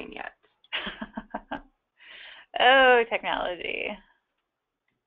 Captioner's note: laughs